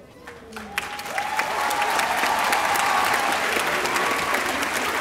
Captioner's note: audience applauding